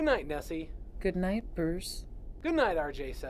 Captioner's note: computer Voice